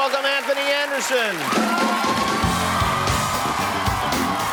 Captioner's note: applause